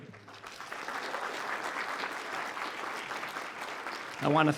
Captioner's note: applause